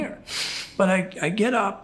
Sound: chuckles

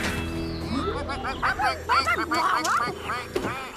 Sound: ducks Quacking

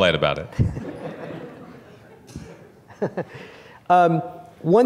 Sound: laughter

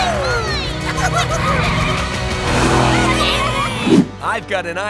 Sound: laughing

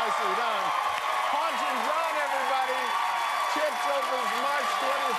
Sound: applause

